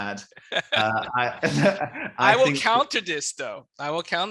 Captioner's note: laughing